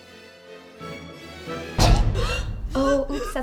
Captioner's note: choking sounds